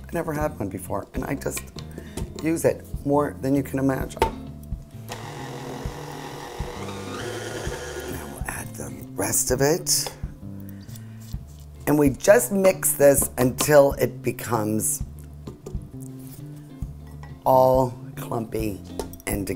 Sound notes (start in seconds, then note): 5.0 mixer whirs